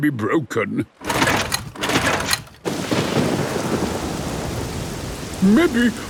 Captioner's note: engine struggling